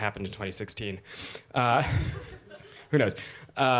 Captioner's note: laughter